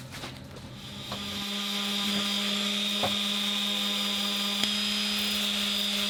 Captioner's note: buffing tool humming